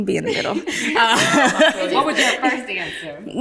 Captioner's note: ladies laughing